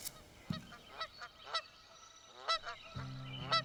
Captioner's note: quacking; soft guitar music